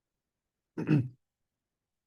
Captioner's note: clears throat